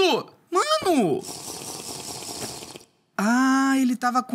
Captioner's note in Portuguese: som de beber no minecraft